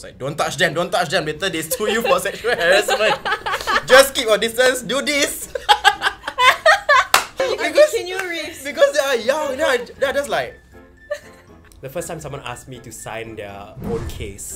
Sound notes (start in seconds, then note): 5.4 laughs